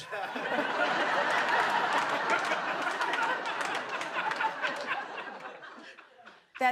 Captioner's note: laughter